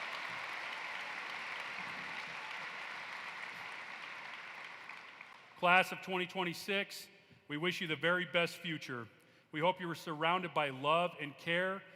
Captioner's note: applause